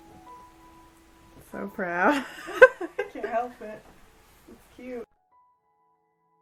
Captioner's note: both laugh